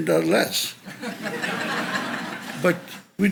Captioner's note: audience laughs